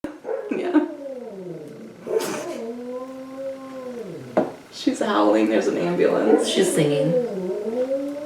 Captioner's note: dog howling in the background